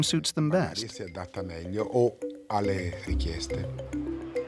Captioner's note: Italian spoken audio